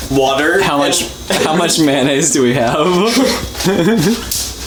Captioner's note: laughs; both laugh wildly